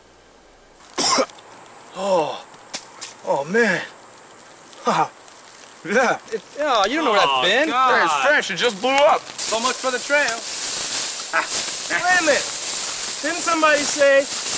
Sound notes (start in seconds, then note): 1.0 Dwight coughing; 4.8 chuckles